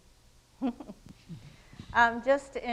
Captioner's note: panelists chuckle